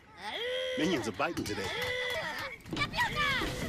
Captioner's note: Minions making noise